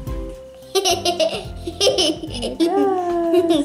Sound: giggles

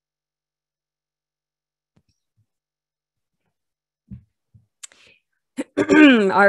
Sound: coughs

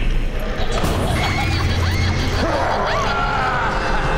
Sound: distant screaming; shrieking

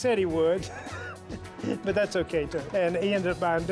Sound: laugh

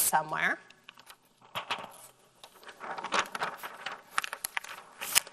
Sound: paper rustling

